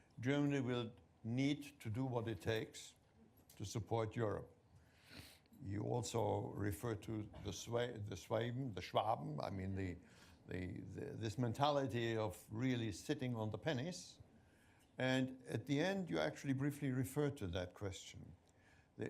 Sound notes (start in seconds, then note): 7.6 non-english speech